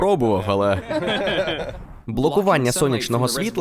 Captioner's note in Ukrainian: сміються